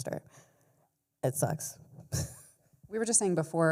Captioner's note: chuckles